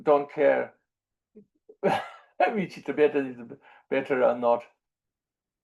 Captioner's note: laughs